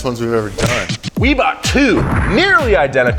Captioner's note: hands thud